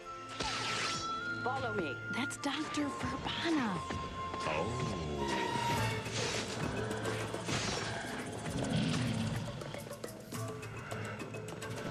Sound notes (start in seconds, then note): 9.7 large creature roars